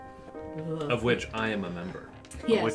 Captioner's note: pompously